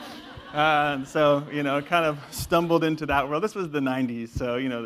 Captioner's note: laugh